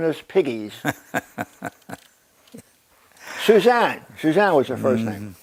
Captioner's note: laugh